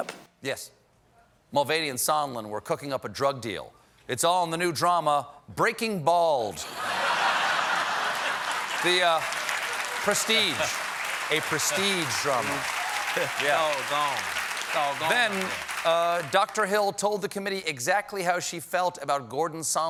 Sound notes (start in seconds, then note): 6.6 laughter; 15.3 applause